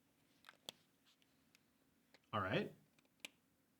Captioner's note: marker clacks